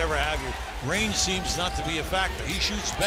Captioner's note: cheers and applause